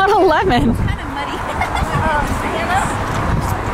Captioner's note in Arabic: يضحك